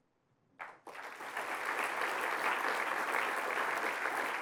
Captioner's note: applause